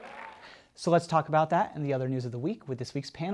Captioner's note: cheers and applause